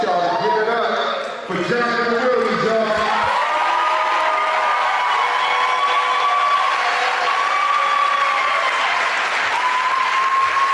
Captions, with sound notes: I want you all to give it up for Jonathan Williams y'all. (audience applauding)